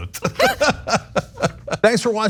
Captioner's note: laugh